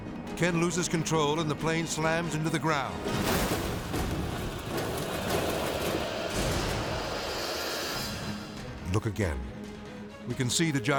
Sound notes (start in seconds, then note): 3.0 plane crashing; 3.2 tense music